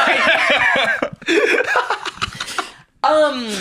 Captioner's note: laugh